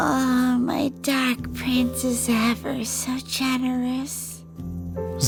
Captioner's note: none